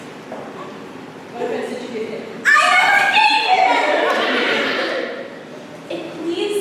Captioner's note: OSWALD, highpitched